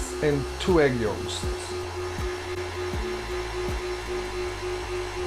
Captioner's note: blender whizzing